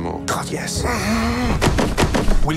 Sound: slam

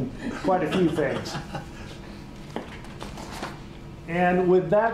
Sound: laughter

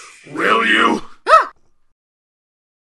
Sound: yelps

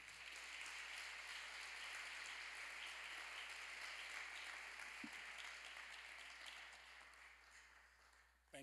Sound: applause

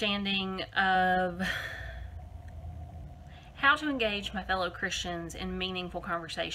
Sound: sigh

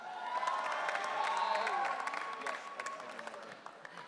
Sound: audience cheering

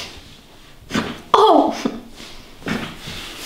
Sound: the girl screams after massage

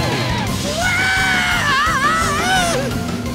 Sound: screaming

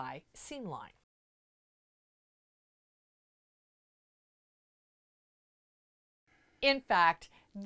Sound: no Sound Present

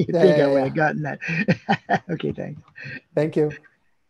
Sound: chuckles

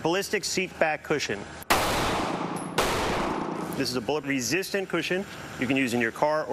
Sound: gunshots

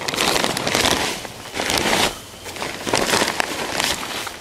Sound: crunching

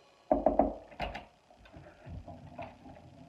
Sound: knocking

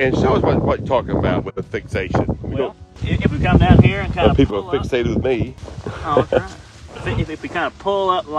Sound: laughing

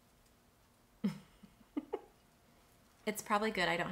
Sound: chuckles

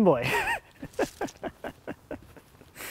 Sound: laughs

